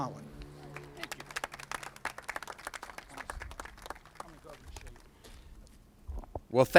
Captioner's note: applauses